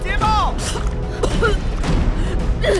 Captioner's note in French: tousse